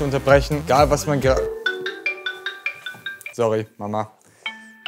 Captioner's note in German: Telefon klingelt